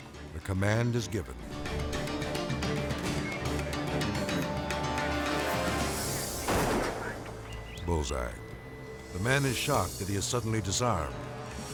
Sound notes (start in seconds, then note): 2.7 tense suspenseful music; 6.4 gunshot fires